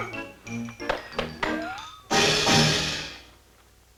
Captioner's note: whistling